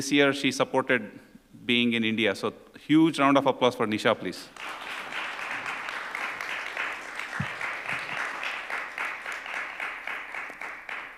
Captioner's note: applause